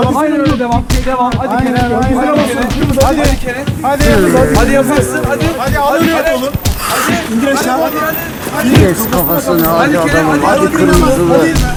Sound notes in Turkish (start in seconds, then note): 4.0 kavga sesleri